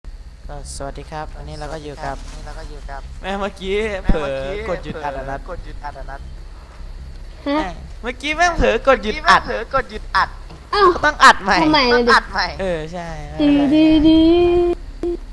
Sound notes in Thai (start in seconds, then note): 13.4 เสียงร้องน้องสาว